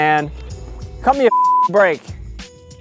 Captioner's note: beep